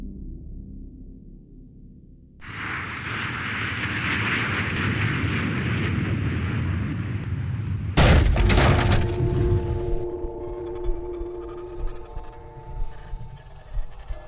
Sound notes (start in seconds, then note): 8.0 crashing